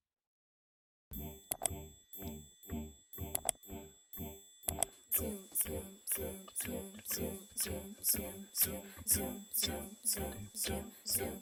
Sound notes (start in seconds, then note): 3.3 mouse Clicking Sounds; 5.6 singing